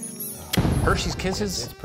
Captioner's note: chef's kiss logo exploding